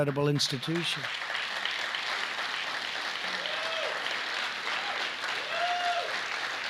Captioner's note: applause